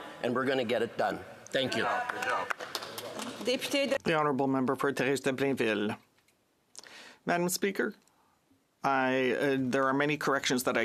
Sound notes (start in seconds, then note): 8.6 speaking in French